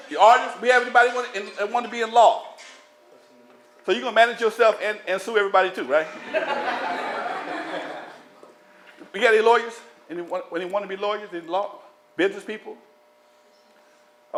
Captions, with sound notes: If you're an artist, everybody want to be in law. So you're going to manage yourself and sue everybody to, right? [LAUGHTER] We got any lawyers? Anyone want to be lawyers in law, business people?